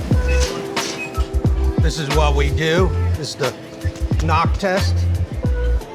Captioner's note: knocking